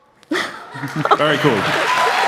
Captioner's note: laughter